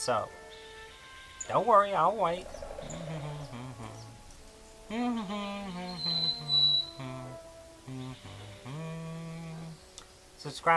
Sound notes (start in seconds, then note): 2.8 sarcastic humming